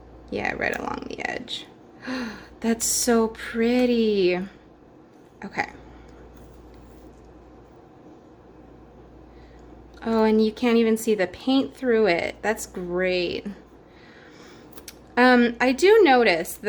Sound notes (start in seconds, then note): 2.0 gasp